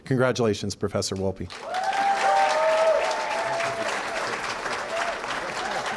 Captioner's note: cheering & applause